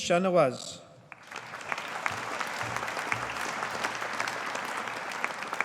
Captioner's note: audience applauding